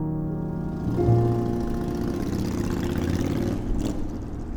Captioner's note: motorcycle engine revs